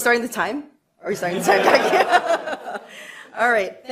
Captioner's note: laughter